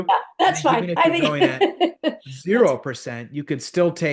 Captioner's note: laugh